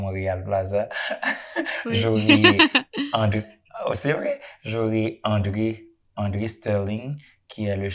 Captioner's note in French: rires